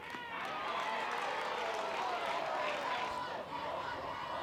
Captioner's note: crowd cheers